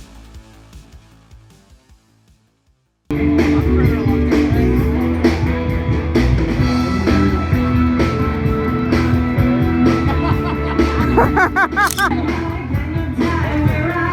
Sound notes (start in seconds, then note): 3.0 loud music; 9.9 also laughter; 9.9 laughter